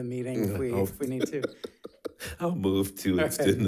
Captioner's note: laughing